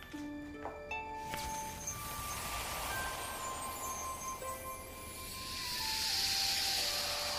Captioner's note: magical buzzing sound